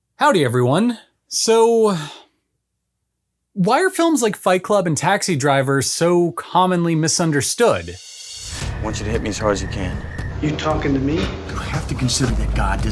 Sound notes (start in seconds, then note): 2.5 beat